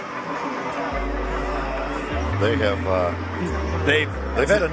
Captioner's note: fans clamoring